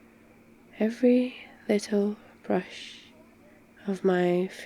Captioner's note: teasingly